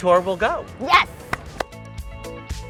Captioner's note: upbeat music; both clap hands